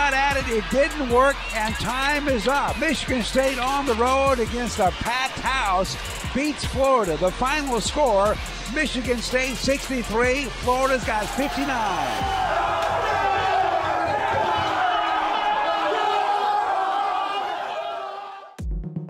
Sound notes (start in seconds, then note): 12.6 players cheering